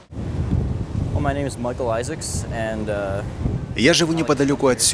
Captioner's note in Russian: английская речь